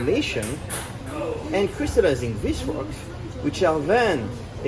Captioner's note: intense ping-pong noises